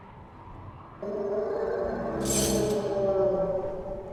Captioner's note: sound of a growl